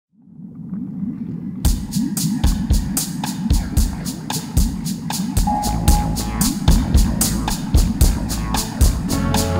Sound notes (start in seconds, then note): 0.2 underwater noises; 5.4 sonar ping; 6.9 instrumental music